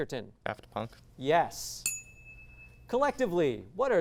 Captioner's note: ding